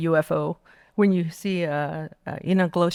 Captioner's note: speaking Navajo